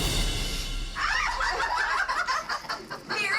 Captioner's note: laughter